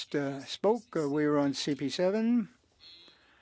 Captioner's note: speaking French